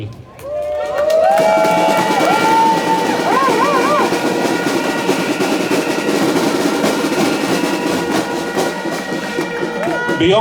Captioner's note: applause